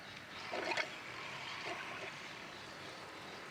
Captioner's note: water burbles